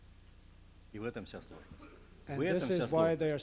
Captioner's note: non-english speech